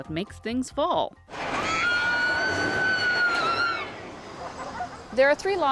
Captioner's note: screaming